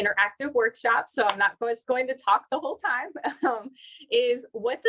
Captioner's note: laughter